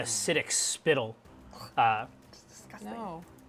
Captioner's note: gags